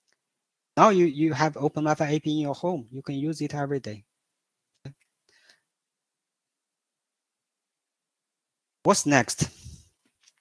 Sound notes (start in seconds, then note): none